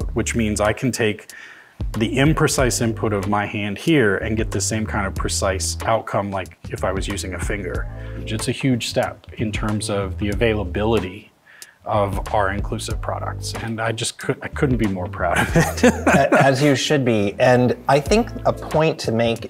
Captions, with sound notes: which means I can take the imprecise input of my hand here and get the same kind of precise outcome like if I was using a finger. Which it's a huge step in terms of the availability of our inclusive products, and I just couldn't be more proud of it. (chuckling) - As you should be. And I think a point to make